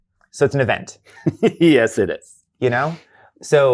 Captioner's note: laughs